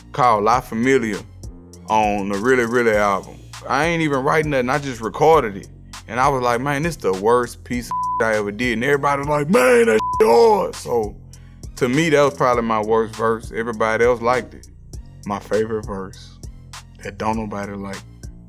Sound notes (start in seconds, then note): 7.9 beep